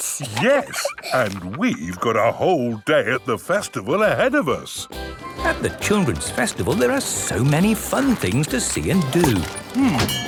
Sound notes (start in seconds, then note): 4.8 festival buzz and music